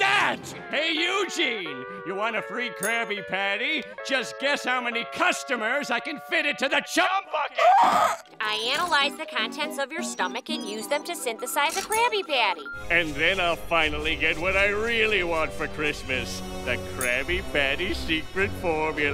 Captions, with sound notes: Hey Eugene, you want a free Krabby Patty? Just guess how many customers I can fit into the Chum Bucket! [gasps] I analyzed the contents of your stomach and used them to synthesize a Krabby Patty. And then I'll finally get what I really want for Christmas, the Krabby Patty secret formula.